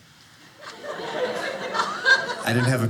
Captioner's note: audience laughing